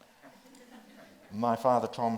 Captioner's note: audience laughs